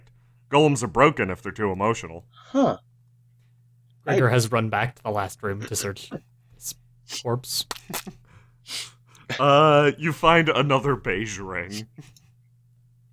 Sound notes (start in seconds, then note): 7.6 squelching